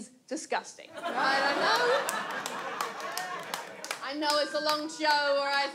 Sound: audience laughs and applauds

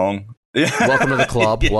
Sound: laughs

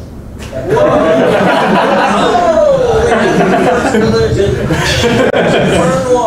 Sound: students cheering and laughing

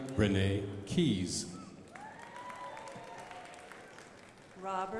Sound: crowd applauding

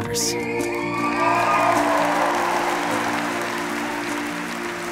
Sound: applause

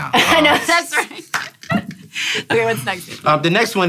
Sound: laughs

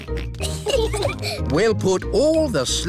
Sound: peppa and george giggling

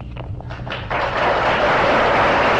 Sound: applause

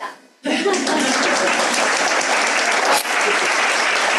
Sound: audience applauds

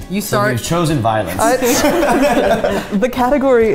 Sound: all laughing

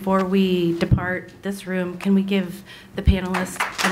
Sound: clapping

